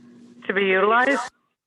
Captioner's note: phone